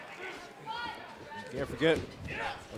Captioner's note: crowd clamors